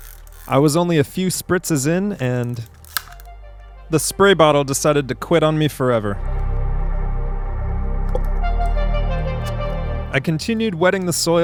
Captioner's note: snapping plastic